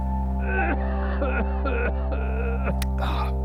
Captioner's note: more coughing